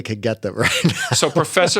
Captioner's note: laughter